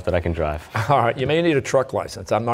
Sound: chuckling

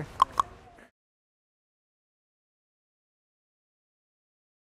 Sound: clicks tongue

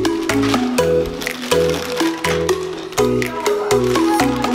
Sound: children playing

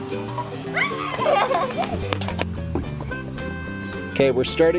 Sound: children laughing

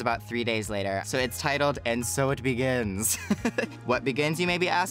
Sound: laughs

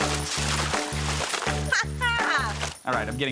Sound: laughs

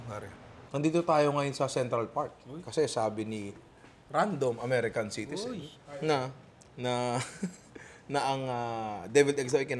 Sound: chuckles

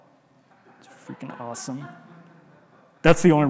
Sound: audience laughing

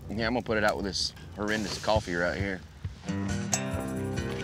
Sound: fire sizzles out

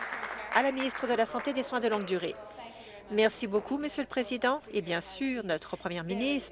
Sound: applause

